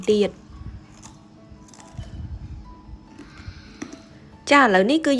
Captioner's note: crispy sound